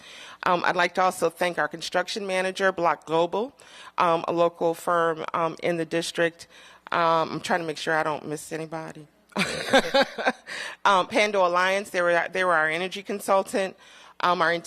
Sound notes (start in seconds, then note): 9.3 laughter